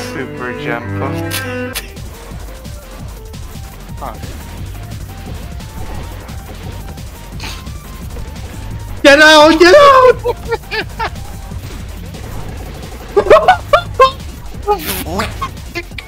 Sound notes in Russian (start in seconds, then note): 1.0 начинает угорать; 9.1 Кричит; 13.1 Дикий ржач